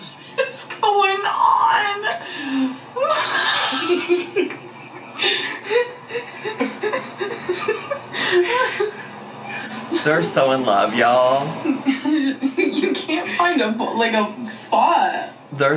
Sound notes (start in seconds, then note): 2.9 laughing